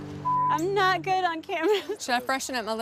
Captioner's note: laugh